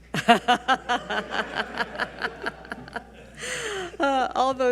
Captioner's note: all laughing